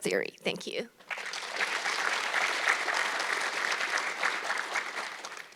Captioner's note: audience clapping